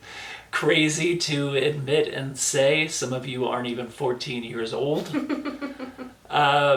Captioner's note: laughs